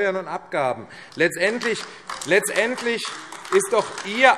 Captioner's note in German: Beifall AfD